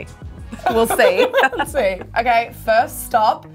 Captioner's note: both laugh